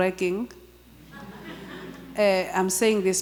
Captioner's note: audience chuckling